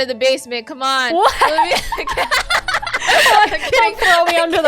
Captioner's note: laughs